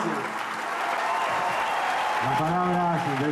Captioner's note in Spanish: aplausos-ovación